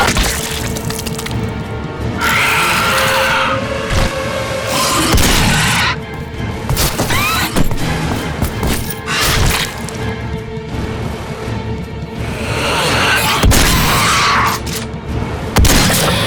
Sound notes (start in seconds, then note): 0.0 head squelches; 2.1 demon screeches; 5.1 gunshots booming